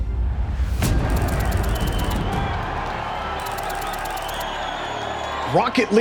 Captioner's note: tense music playing; crowd cheering